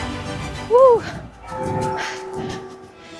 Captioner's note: Big Ben tolling